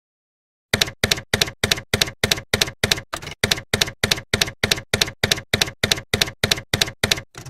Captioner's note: typewriter keys clacking